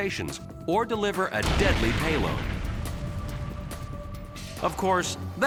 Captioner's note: bomb bursting